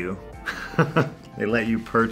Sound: chuckling

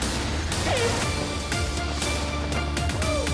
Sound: suspenseful music; horn blast; cheering; intense music

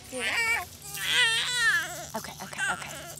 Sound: babies cry

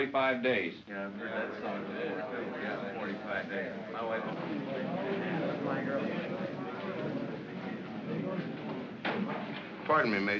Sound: men grumble

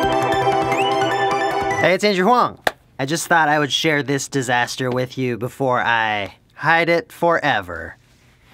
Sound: clap

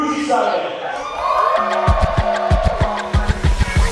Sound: cheering & applause

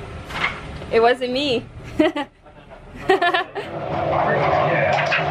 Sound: laughing

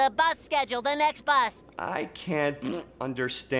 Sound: blowing raspberry

